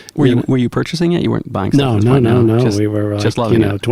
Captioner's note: murmurs